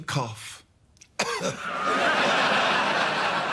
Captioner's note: feigns a cough